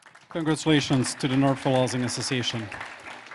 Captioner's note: applause